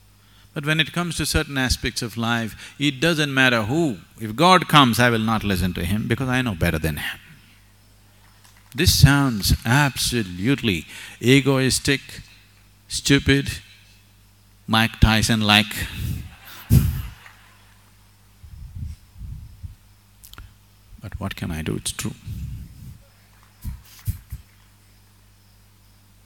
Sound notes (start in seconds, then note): 16.0 laughs; 16.0 laughter